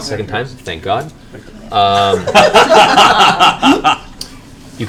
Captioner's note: laughter